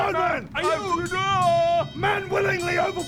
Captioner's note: ding-ding ding-ding